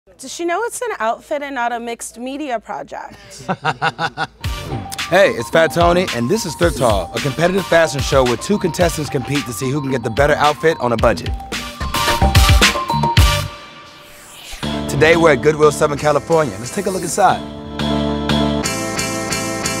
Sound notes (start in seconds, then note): 3.4 laugh